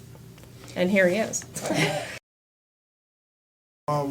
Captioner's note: laughs